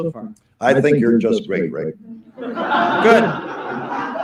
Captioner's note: laughter